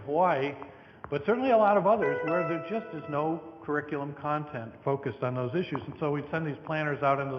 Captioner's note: computer tone